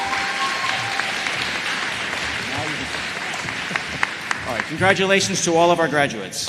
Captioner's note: applause